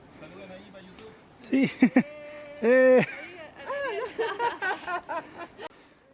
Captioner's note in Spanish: saludos y risas